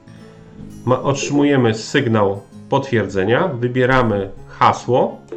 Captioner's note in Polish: bip, bip